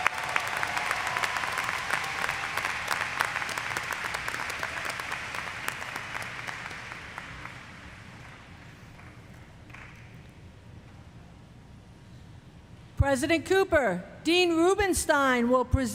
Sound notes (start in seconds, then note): 2.2 applause